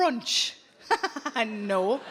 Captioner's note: chuckling